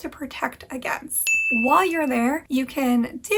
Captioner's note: bell dings